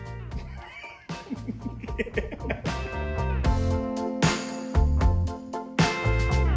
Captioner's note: lively music continues; laughing